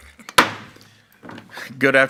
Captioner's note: gavel banging